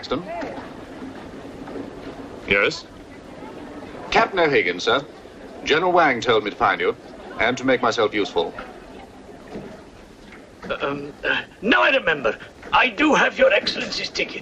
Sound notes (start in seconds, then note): 10.3 clears throat